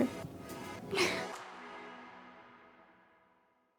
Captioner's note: chuckles